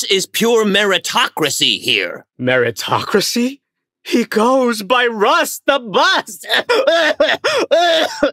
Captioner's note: Albert has a coughing fit